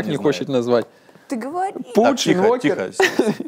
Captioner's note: stutters